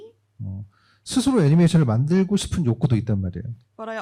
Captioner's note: speaking korean